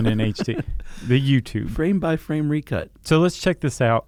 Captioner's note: laughing